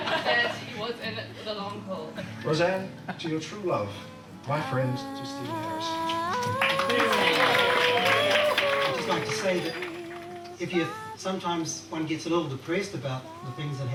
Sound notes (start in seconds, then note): 0.0 audience laughing; 5.8 audience applauding